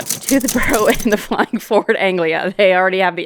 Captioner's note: starts laughing